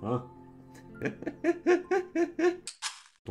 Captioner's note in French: Rires